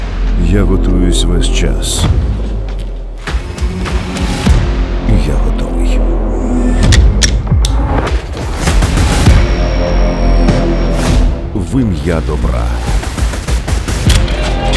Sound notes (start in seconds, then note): 2.2 tense music playing; 6.6 tense music playing; 11.1 tense music playing; 13.0 sounds of gunfire; 13.1 tense music playing